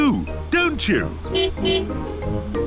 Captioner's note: car honking; tires screeching